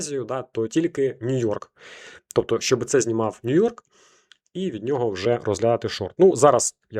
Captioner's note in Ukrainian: сопіння